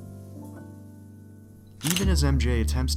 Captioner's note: camera shutter